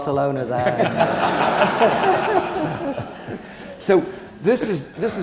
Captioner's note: audience laughing